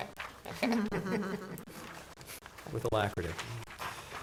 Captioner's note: chuckling